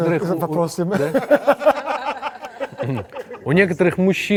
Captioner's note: everyone laughs